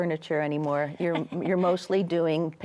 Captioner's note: chuckles